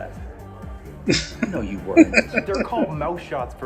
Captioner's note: laughing